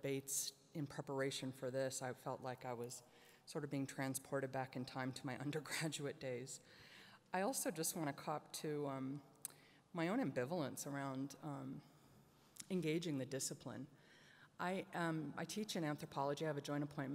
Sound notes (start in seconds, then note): none